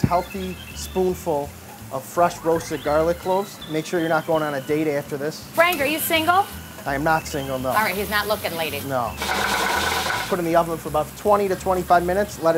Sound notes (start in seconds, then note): 9.2 pan rattles